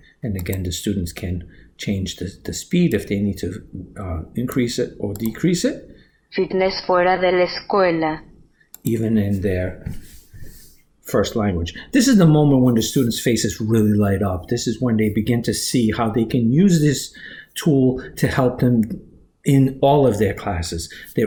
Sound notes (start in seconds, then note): 0.0 computer speaking Spanish; 6.4 computer speaking Spanish